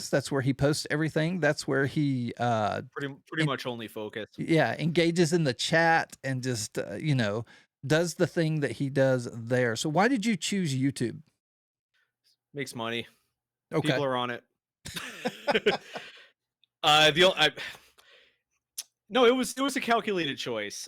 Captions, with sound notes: That's where he posts everything. That's where he- Pretty much only focused. Yeah, engages in the chat and just, you know, does the thing that he does there. So why did you choose YouTube? Makes money. People are on it. (laughing) No, it was a calculated choice.